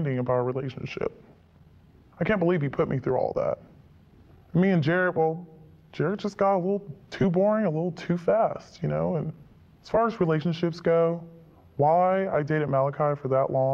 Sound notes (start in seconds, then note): none